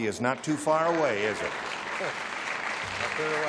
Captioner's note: applause